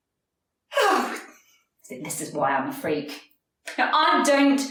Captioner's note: sighs